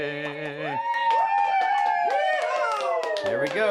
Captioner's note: cheering